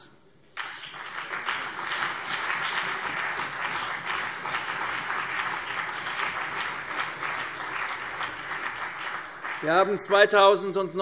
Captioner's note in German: Beifall CDU und BÜNDNIS 90/DIE GRÜNEN